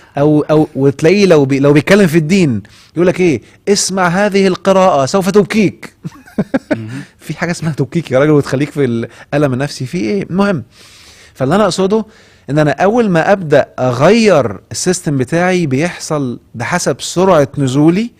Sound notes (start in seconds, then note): 10.2 sarcasm!